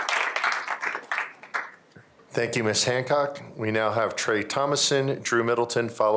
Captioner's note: applause